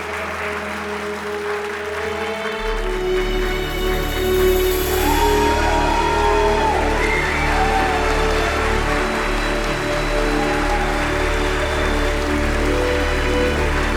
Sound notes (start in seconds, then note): 2.3 melodic cinematic music; 5.2 audience cheering